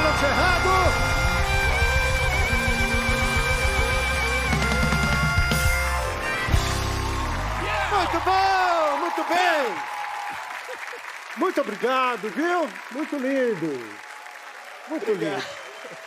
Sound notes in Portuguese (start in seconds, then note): 5.1 aplausos